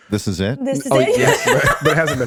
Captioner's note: laughing